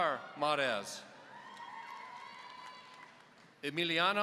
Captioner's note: audience cheering